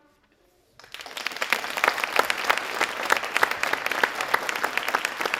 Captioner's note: audience applauding